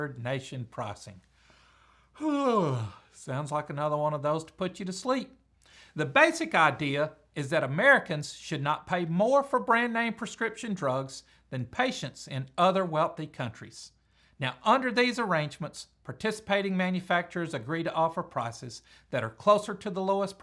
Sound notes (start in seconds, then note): 2.1 yawn